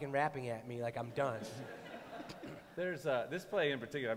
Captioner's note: laughter